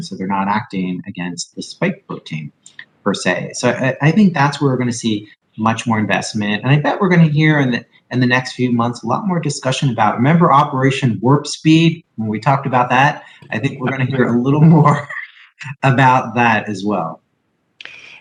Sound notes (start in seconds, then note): 13.4 chuckles